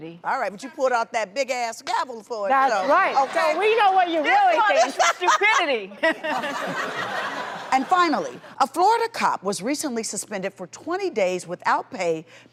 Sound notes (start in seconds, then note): 4.6 Vivica laughs; 6.2 laughs